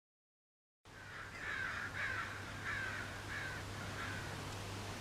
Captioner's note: crows singing